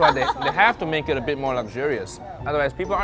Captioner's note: laughs